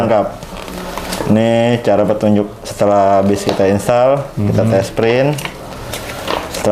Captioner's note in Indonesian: suara kertas